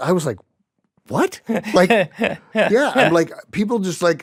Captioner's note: laughs